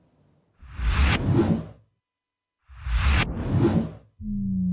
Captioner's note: whooshing sound